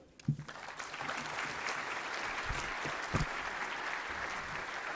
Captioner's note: applause